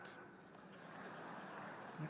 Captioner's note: laughter